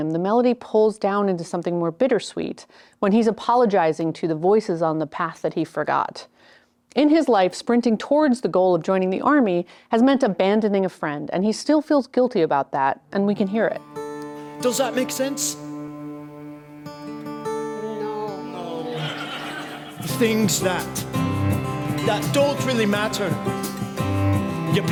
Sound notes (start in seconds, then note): 18.6 audience laughs